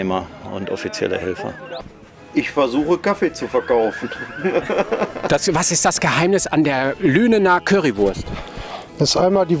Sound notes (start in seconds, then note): 3.4 laughs